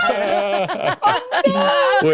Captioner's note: laughing